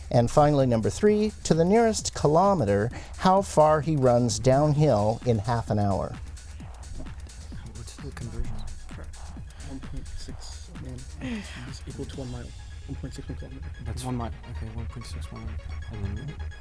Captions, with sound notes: And finally, number three to the nearest kilometer, how far he runs downhill in half an hour. [Whispering]